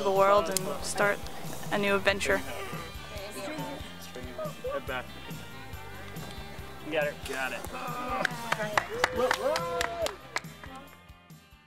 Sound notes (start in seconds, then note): 7.4 group cheers and claps; 10.0 music fades